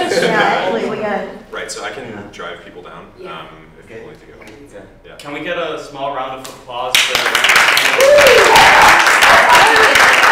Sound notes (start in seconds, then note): 6.9 applause